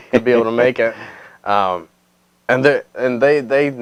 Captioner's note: laughing